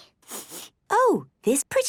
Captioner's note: sniffs